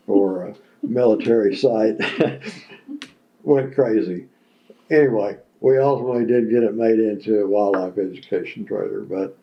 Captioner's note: laughter